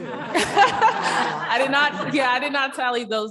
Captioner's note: chuckling